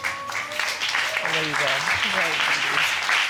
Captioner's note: audience clapping